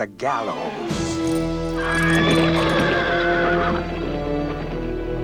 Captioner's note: horses neigh